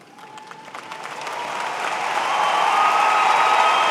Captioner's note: applause